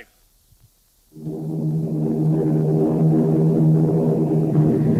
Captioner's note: plane engines roaring